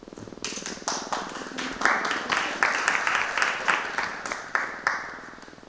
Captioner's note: audience applauding